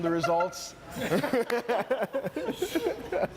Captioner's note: laughs